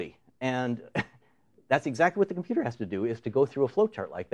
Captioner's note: chuckles